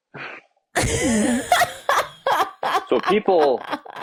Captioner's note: laughing